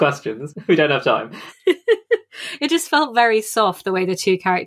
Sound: laughs

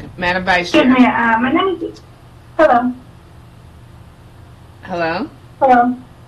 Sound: woman speaking in the background

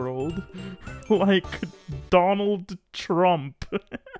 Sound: laughs; continues laughing

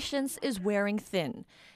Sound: speaking Foreign Language

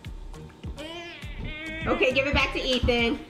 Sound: whines

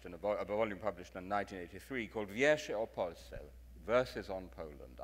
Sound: speaks in foreign language

